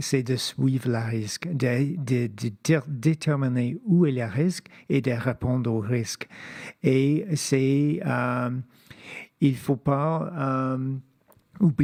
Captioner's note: speaking French